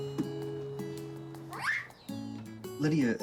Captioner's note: screams